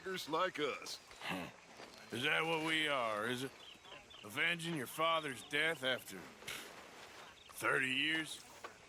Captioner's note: laughs